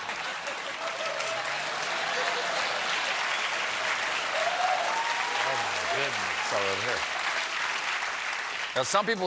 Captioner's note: applause; laughter